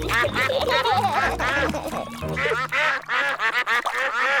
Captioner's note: ducks quacking; both giggling; ducks continue quacking